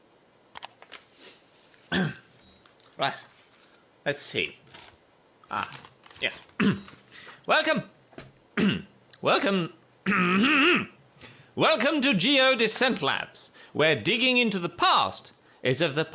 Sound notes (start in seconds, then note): 1.8 clears throat; 6.0 clears throat; 10.0 clears throat